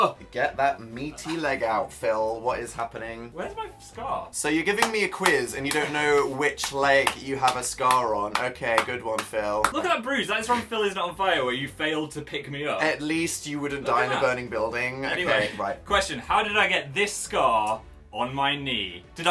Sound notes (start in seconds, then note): 5.6 sarcastic applause